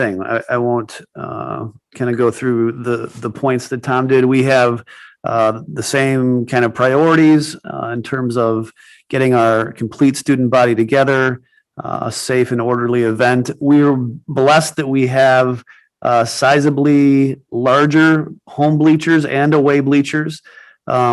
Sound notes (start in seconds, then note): none